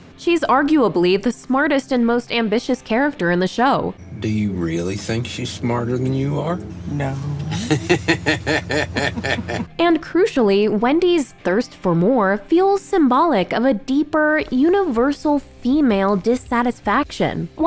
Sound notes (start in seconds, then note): 7.3 laughs